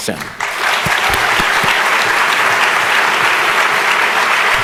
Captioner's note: audience applauding